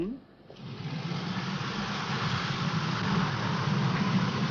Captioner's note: vehicle whirring